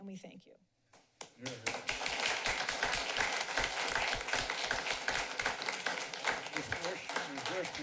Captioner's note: applause